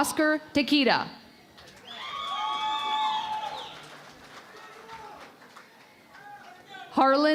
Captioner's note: cheering and Applause